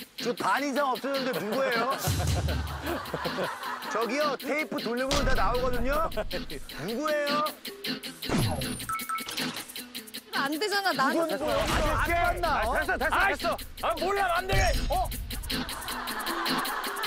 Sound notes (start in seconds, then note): 9.1 rewinding tape